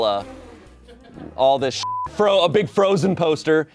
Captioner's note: beep